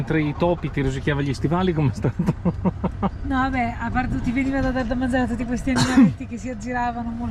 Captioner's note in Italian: risate